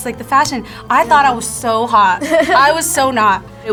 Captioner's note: laughs